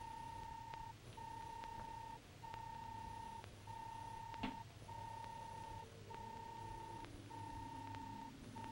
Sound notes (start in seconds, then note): 1.9 robot beeping